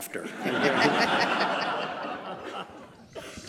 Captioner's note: laughter